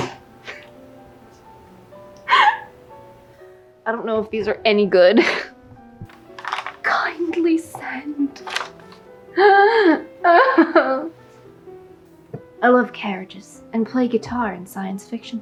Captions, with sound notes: I don't know if these are any good kindly send! *sobs* I love carriages and play guitar and science fiction